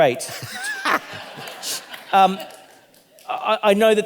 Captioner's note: audience laughing